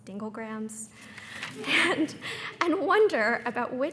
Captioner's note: everyone laughing